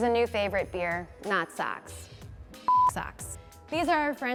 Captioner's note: beep